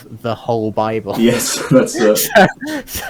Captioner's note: both chuckling